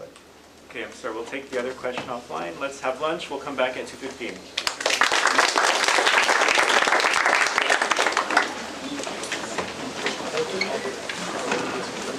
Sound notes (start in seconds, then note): 4.5 applause